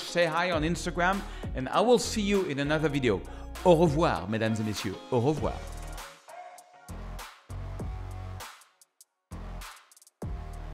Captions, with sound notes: Say hi on Instagram and I will see you in another video. (speaks in French) (soft music)